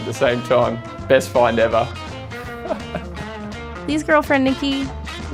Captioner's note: laughs